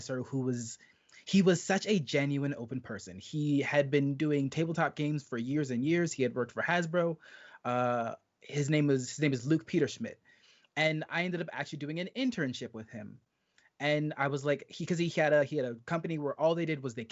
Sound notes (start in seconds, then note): none